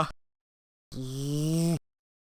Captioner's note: growls